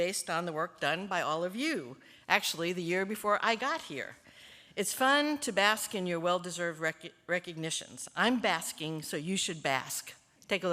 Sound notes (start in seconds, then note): none